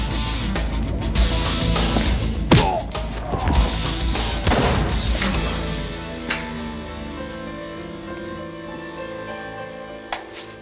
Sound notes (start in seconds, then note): 0.0 intense rock music; 2.7 man grunts; 4.2 pistol fires